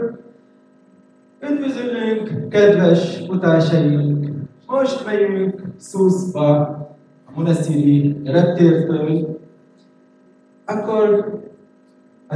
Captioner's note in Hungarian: switches to Hungarian